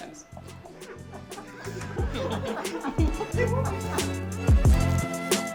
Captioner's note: laughing